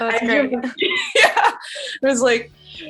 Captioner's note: laughing